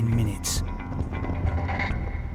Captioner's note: boat droning; intense music